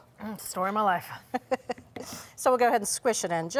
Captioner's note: laughs